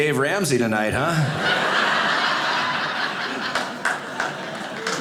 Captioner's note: audience laughing